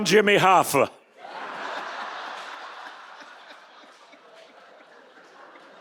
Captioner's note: audience laughing